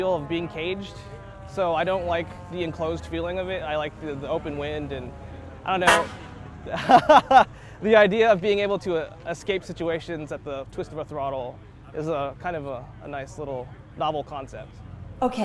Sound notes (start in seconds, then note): 5.8 horn beeps; 6.7 laughs